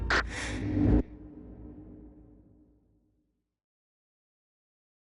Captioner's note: quick inhale of oxygen